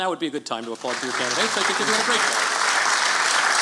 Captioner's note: applause